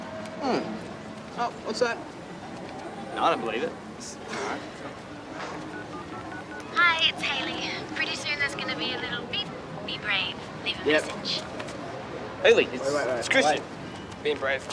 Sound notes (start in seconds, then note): 5.1 phone line ringing; 6.6 voicemail